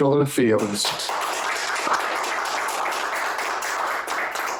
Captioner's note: applause